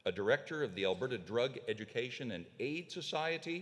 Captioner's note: none